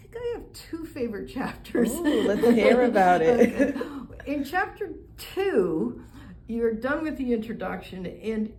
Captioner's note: laughter